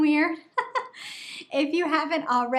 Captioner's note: laughing